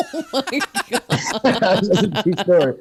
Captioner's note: everyone Laughs